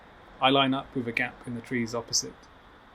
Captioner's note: none